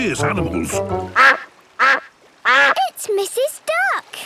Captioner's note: quacking